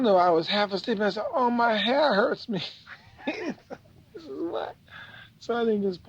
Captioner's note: laughs